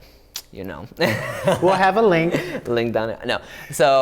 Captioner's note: laughs